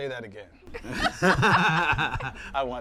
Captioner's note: both laughing